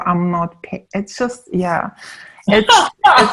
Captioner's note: laughing